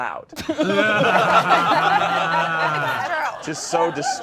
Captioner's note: all laughing